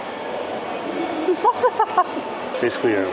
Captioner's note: laughter